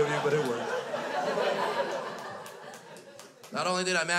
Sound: crowd laughs

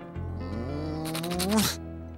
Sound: sighs

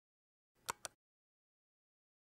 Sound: click

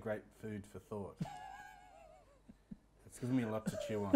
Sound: laughs

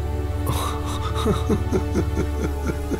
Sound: sobbing

